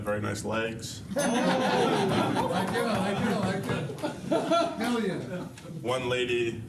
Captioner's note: laughter